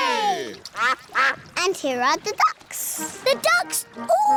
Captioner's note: quacking